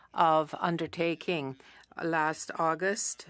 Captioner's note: speaking French